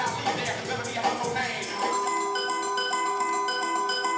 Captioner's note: quick chimes